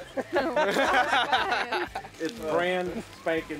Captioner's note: everyone laughs